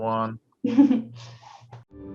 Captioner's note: chuckles